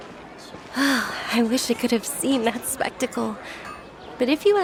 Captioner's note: sigh